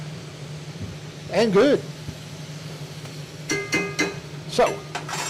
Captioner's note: utensil banging